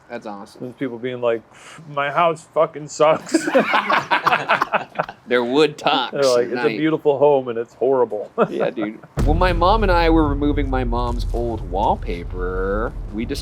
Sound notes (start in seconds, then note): 3.1 group laughs; 8.4 laughs